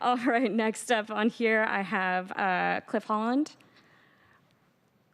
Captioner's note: laughter